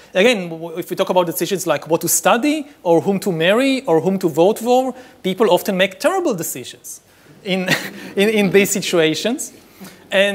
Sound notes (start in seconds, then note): 7.6 laughs; 7.6 audience laughing